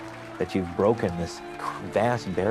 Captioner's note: crowd cheering